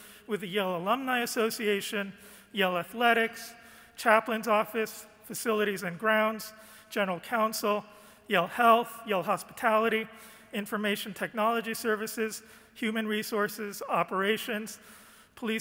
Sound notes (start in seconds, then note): none